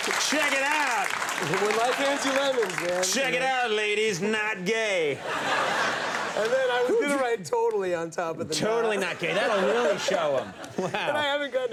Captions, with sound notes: Check it out, check it out ladies, not gay. (audience laughing) And then I would write, totally on top of the- Totally not gay that would really show 'em. Wow!